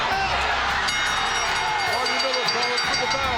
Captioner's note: bell rings